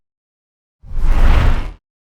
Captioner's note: whooshing